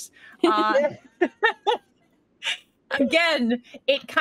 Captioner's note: laughs